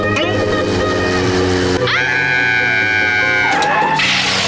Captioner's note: screaming